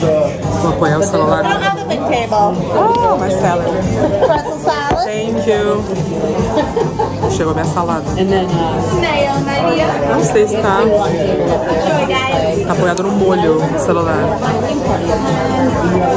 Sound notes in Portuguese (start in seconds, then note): 6.3 risadas ao fundo